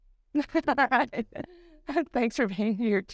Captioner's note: laughs